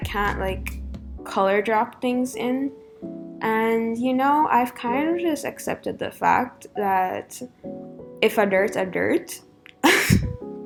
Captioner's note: chuckle